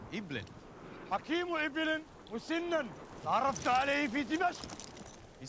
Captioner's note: speaking in arabic